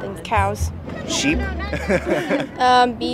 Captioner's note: laughs